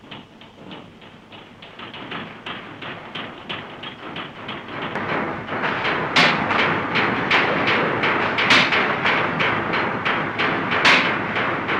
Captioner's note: banging and clattering